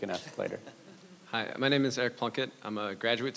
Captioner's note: audience laughs